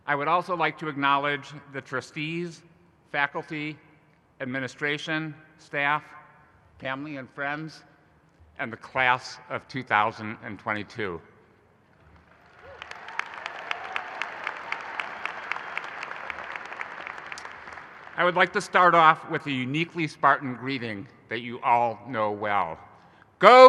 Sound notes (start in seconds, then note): 12.1 audience applauding